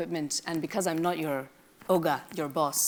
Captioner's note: speaks in a foreign language